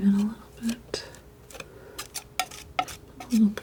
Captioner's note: scratching